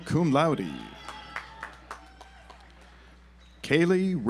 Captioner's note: audience applauds